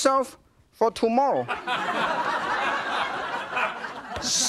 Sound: audience laughs

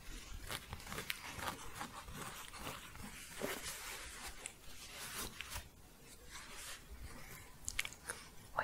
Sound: scratching

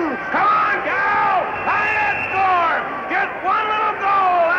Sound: brad cheering

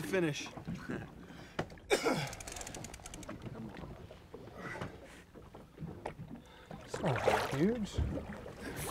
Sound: chuckling

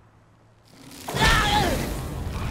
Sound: grunting

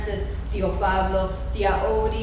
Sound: speaking foreign language

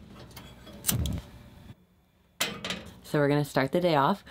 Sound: utensils clanging; burner igniting

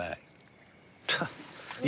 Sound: scoffs

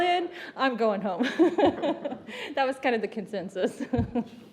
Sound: laughter; laughter

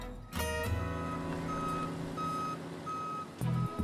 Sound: beeping of the truck's back up warning

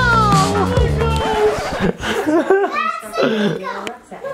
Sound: record screeches

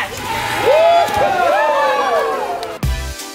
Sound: kids cheering; upbeat music

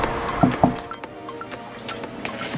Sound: knocks

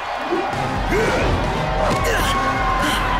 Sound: grunts

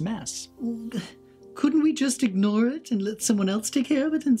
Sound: sighs

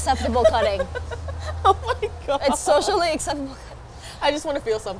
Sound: laughs

